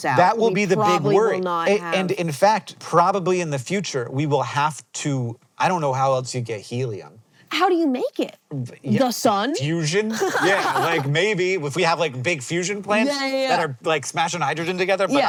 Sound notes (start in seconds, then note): 10.1 laughs